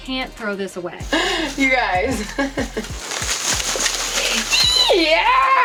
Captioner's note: laughs